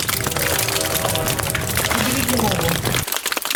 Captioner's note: train whistle